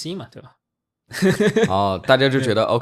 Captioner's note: laughs